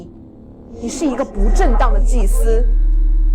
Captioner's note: Mandarin language